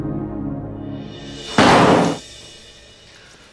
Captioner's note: Door closes